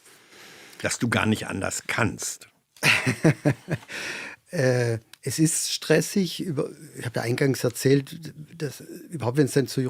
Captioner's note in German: gelächter